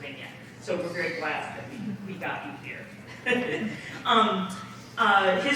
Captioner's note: chuckles